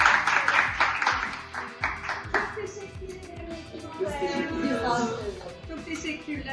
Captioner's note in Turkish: alkış